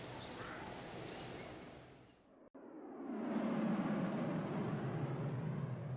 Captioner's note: birds chirping